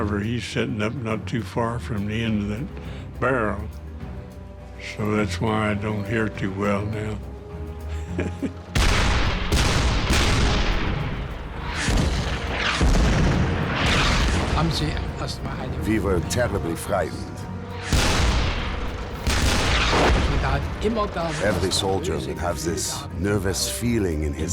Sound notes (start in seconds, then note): 7.9 chuckles; 8.7 cannons firing; 11.8 shells exploding; 14.7 speaking in foreign language; 17.7 cannons firing; 20.2 shell exploding